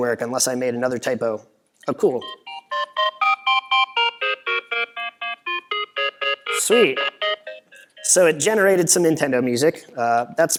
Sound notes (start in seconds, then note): 3.7 cool bloopy-bleepy Nintendo noises